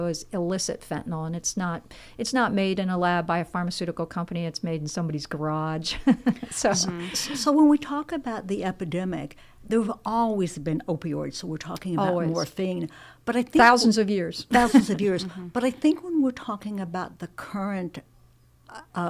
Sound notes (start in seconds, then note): 6.0 chuckling